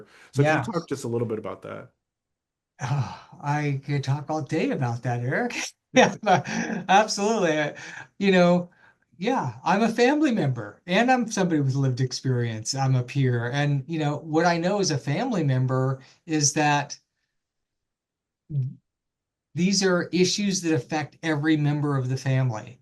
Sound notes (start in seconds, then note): 5.9 laughs